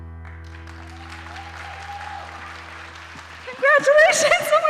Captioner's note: audience applauding